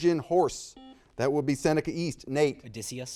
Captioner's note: buzzer dings